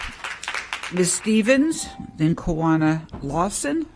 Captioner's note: applause